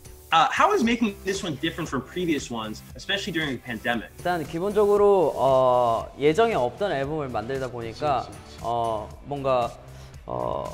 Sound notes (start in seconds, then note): 4.4 speaking foreign language; 7.6 mellow pop music